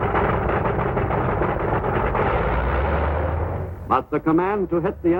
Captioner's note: airplane engines roaring; artillery firing